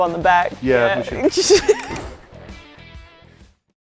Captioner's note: laughs